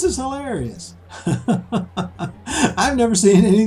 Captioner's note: laughing